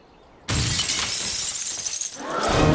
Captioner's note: shatter